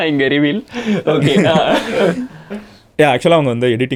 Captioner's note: group laughs